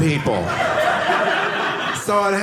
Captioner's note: audience laughing